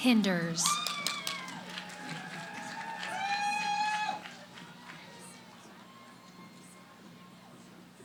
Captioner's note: cheering